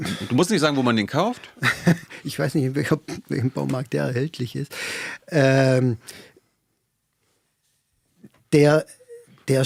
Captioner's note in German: gelächter